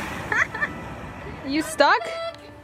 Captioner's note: laughing